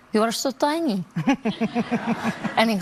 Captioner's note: Tam laughs